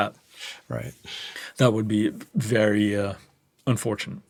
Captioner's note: laughs